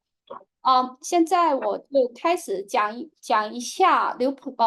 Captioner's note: speaking chinese